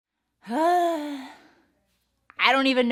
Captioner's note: sighs